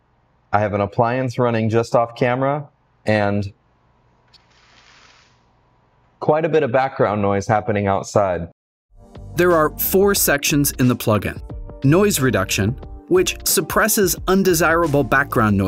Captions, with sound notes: I have an appliance running just off camera and... (window shade raising) Quite a bit of background noise happening outside. There are four sections in the plugin. Noise Reduction, which suppresses undesirable background noises.